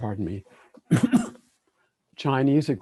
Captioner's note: coughs